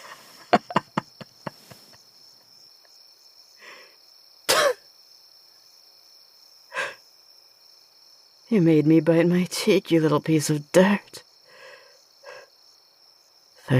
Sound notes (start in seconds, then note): 0.0 laughter; 4.4 spits